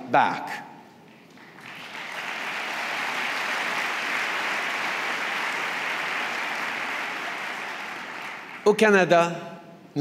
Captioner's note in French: Applaudissements